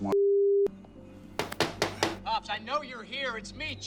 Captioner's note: knocking